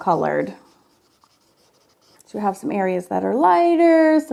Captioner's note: marker scratching